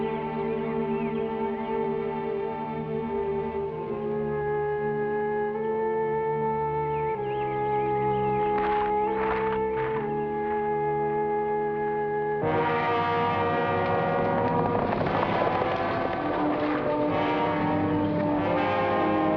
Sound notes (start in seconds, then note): 4.5 somber music; 8.5 footsteps patter; 12.6 thrilling music; 13.8 horse hooves patter